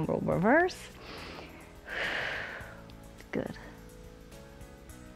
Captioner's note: inhales and exhales